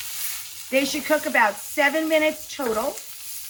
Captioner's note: burgers sizzling